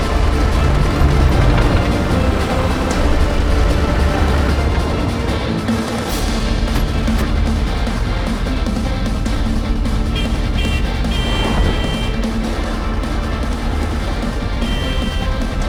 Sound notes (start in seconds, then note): 10.2 horn beeping